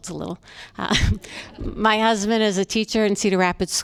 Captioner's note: laughter